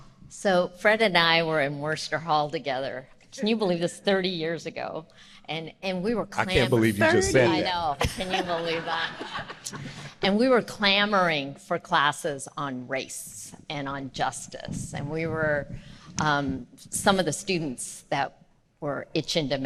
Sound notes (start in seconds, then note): 8.0 audience laughing